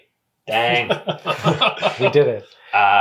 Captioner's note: laughs